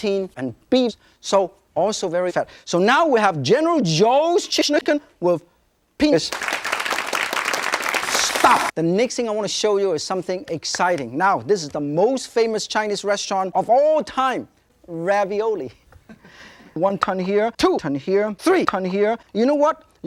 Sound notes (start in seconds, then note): 6.3 audience applause; 16.0 audience chuckling